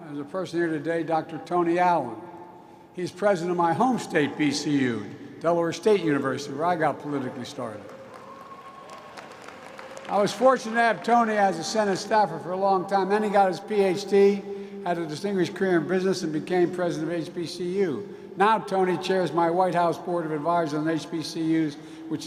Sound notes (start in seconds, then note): 7.6 applause